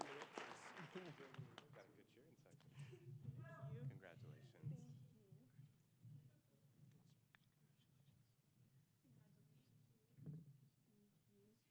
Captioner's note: applause